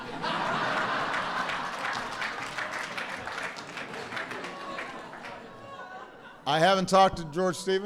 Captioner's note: laughter and applause